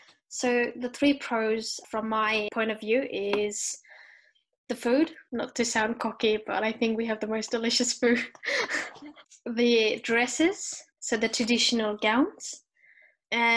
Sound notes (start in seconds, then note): 8.5 laughs